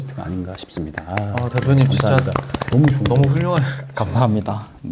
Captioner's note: applaud